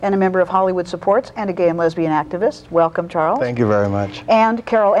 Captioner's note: none